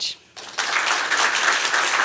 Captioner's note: applause